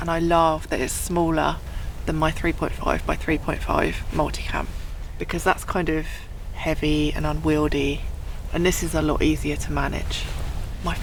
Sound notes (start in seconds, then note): none